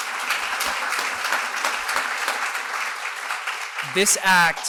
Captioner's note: applause